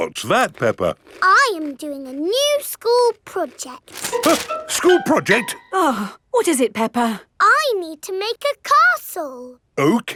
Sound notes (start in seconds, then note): 4.3 gasps; 6.0 sighs